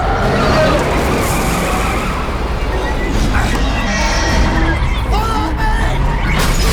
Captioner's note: engine revving; tires screeching